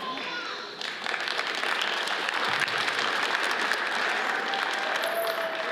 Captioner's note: audience applauds